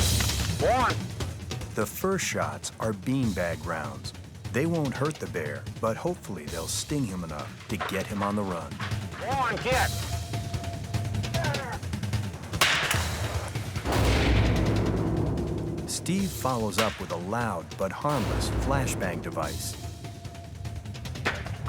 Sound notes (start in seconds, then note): 0.2 intense music; 11.8 device sizzles and explodes; 12.4 gun blasting; 21.4 device exploding; 21.4 gun blasting